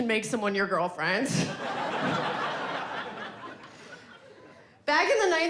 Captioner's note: audience laughing